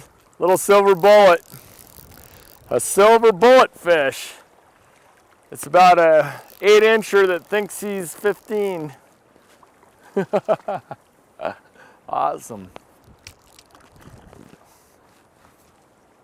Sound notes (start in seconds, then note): 10.0 laughing